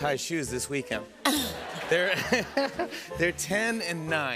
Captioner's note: laughter